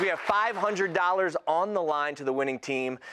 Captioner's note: cheers